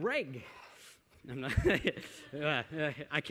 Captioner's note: laughter